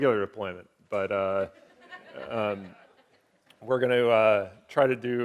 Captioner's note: audience laughing